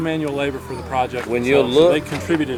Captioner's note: voiceover